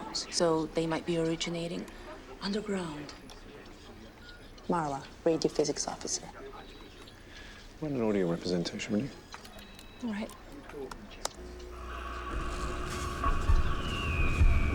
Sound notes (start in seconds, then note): 9.3 keys clacking; 11.6 whirring and warbling